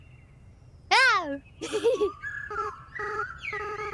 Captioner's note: laughs